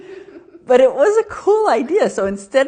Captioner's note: both laughing